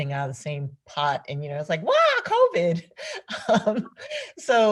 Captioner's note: laughs